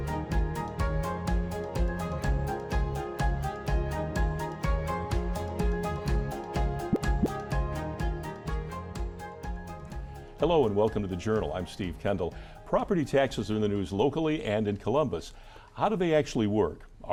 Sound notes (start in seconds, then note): 6.8 graphic pops; 8.4 upbeat piano music continues